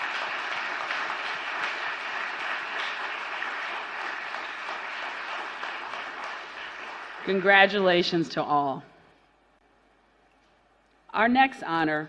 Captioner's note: applause